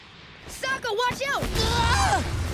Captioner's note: screaming